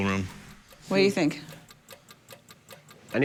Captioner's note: clock ticking